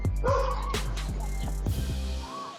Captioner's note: dog barking